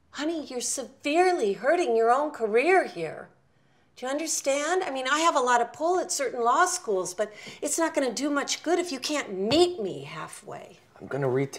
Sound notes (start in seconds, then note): none